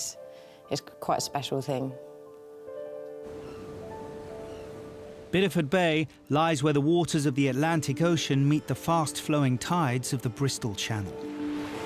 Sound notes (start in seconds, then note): 2.1 gentle music; 3.2 birds chirping